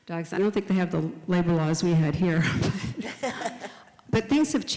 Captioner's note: both laugh